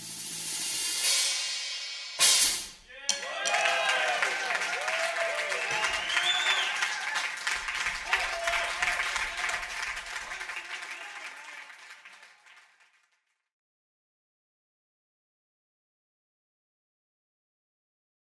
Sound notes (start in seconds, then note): 0.2 drumsticks thumping; 3.2 crowd cheering and clapping